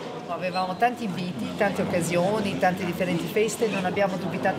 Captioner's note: speaks in Italian